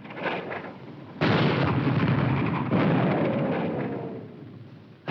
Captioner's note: bombs exploding